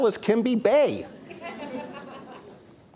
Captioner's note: audience laughter